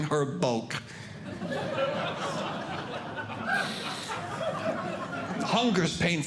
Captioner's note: audience Laughing